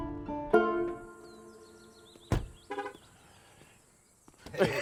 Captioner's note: car locks, horn honks; chuckling